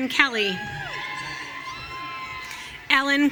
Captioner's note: audience cheering